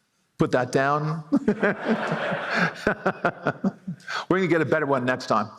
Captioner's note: laughter